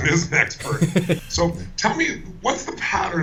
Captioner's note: laughter